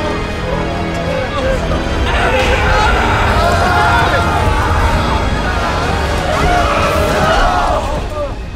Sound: intense music continues; wailing; music stops

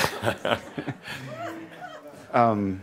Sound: more laughter

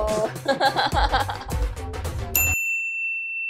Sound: laughing

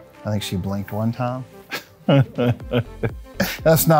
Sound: laughs

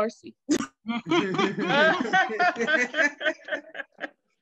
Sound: laughing

